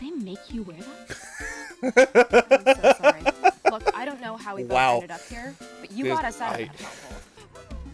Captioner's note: wheezing laughter; sigh